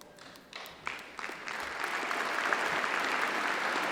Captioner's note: applause